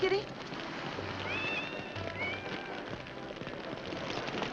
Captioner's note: cat meows; fire crackling